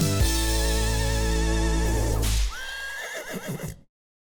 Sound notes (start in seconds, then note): 2.2 whip sound; 2.5 horse neighs